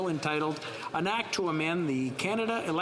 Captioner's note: speaking French